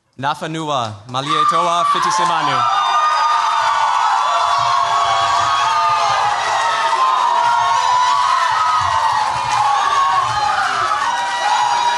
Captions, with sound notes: Nafanua Malietoa Fitisemanu. [CHEERS, APPLAUSE]